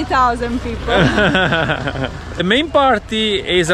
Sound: laughs

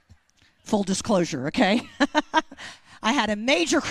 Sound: chuckles

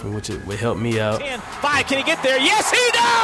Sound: voiceover

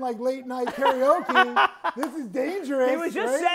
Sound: laughing

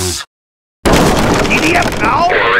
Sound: wooden door falling

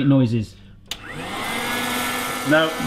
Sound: food processor sound

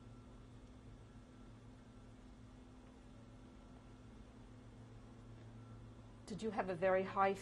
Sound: pauses for 6 seconds

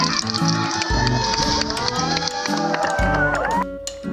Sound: screaming; silly music

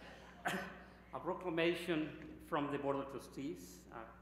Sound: laughter

